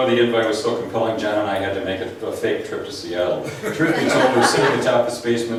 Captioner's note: laughs